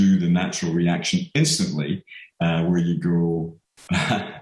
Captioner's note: laughs